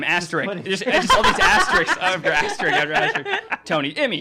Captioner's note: laughing